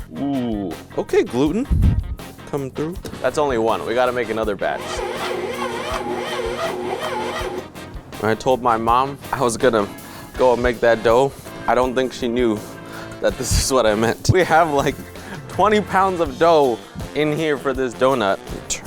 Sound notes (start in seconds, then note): 4.7 mixer whirring